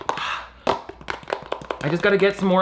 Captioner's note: breathes heavily; spoon taps carton